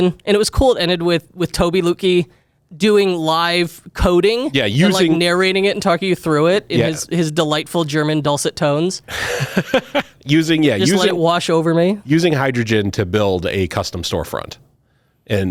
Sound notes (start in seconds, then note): 10.8 laughs